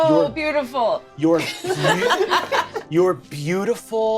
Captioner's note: all laughing